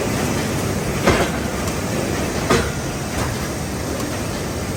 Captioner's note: machine thudding